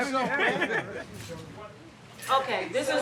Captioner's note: everyone talking, laughing